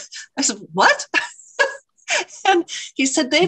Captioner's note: laughter